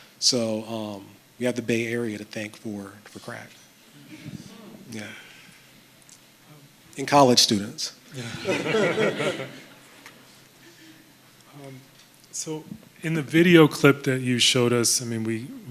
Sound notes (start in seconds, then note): 3.9 audience murmuring; 8.1 laughter